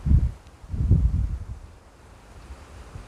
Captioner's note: wind